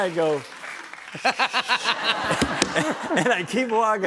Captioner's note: laughter